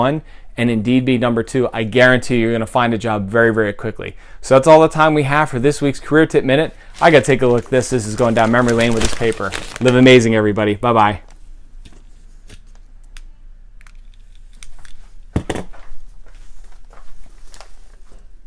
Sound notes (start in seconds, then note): 11.3 reading newspaper and crumbling of paper